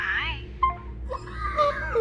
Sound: call ends

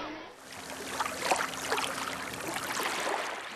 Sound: water laps gently

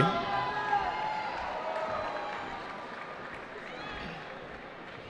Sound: cheering

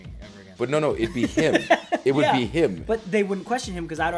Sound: laugh

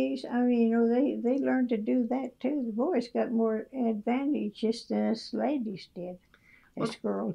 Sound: laughs

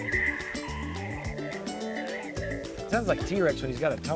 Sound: dinosaur roars

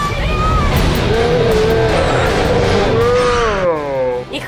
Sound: slowed down scream

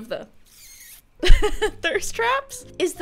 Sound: laughs

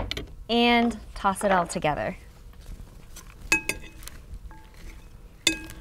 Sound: spoons clanging

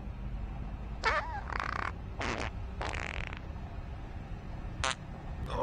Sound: fart

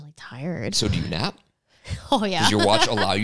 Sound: laughs

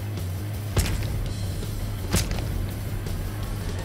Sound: thuds

